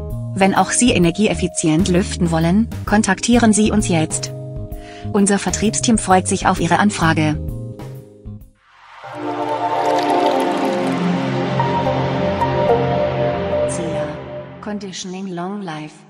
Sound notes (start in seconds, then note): 8.8 quiet sounds and flowing water